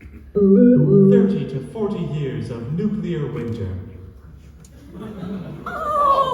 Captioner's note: computer noise